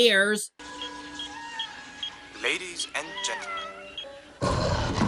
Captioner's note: beeping; growling